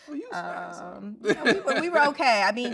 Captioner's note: murmurs